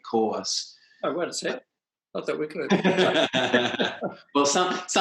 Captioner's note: both laugh